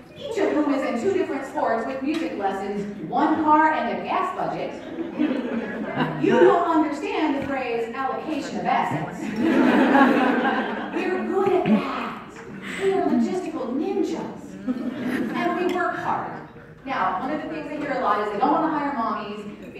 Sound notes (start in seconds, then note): 4.7 crowd Chuckling; 9.2 crowd Laughing